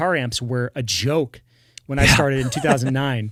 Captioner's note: laughs